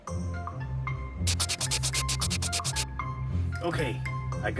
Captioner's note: erasing sounds